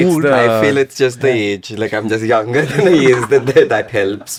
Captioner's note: laughs